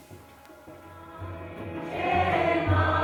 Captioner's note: chanting